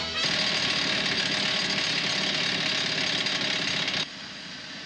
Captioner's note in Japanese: ドリルの音